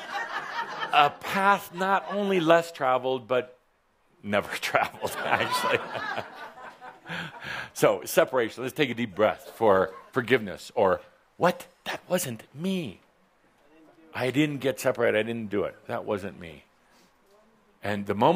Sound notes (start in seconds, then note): 0.0 some chuckles; 6.7 chuckles